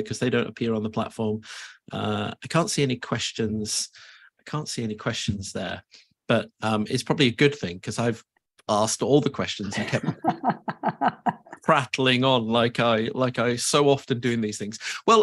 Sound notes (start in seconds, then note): 9.7 laughs